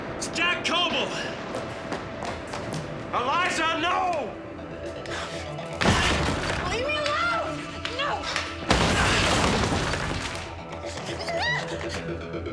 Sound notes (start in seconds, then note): 9.0 chains rattling